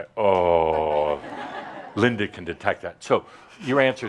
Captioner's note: some chuckles